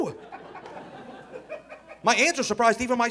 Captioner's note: audience laughing